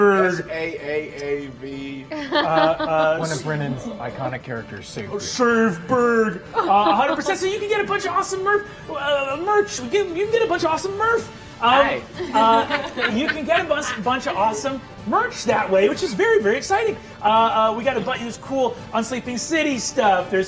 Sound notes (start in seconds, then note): 12.5 cackling